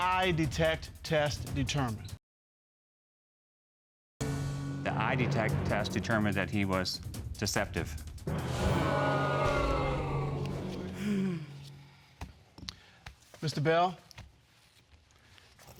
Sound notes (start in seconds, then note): 8.5 audience exclaiming; 11.8 sighs